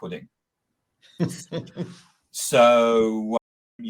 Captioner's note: laughing